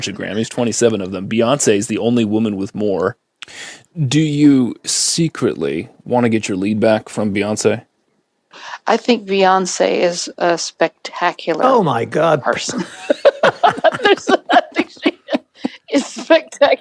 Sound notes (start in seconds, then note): 3.0 sneaky villain tone